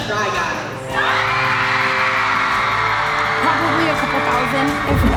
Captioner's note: attendees cheering